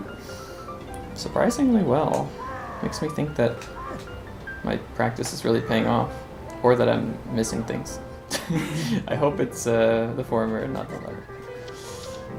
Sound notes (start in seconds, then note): 8.3 laughs